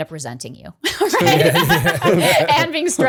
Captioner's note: laughter